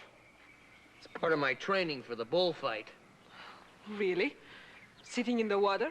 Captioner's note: none